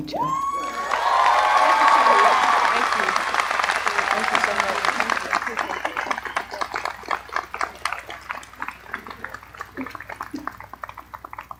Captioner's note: applause